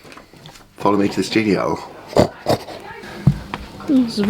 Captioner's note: oink oink